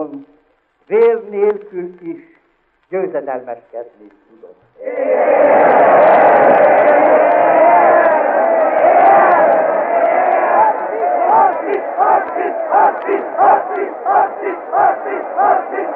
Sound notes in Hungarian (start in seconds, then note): 4.8 éljenzés